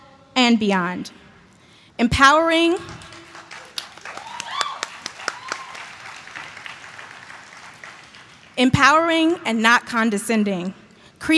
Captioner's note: applause